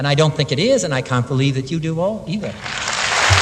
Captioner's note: applause